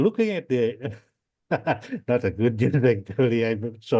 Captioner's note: laughs